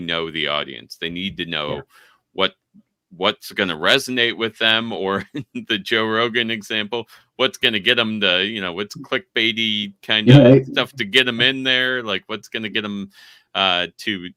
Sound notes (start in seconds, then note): 6.9 chuckling